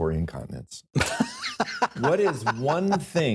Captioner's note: laughs